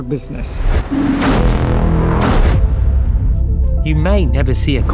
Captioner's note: transition whooshing